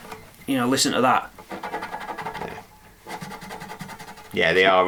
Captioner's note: scratching sounds